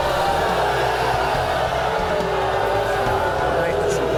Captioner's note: audience booing